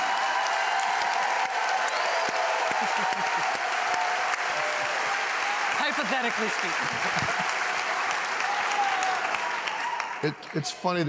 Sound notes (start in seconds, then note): 5.0 laughter and applause